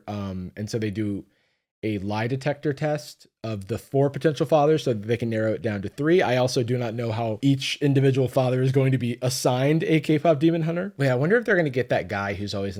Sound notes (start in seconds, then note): none